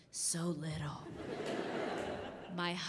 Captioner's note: audience laughing